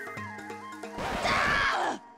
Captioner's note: record scratch, shrieking